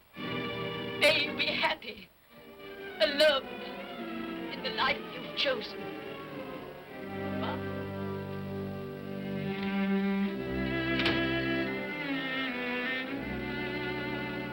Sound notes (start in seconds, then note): 0.2 dramatic ominous music; 8.8 sentimental music; 10.6 door closes; 12.2 sentimental music